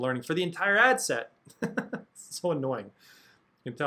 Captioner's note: chuckles